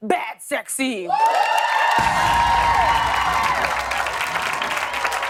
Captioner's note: cheers and applause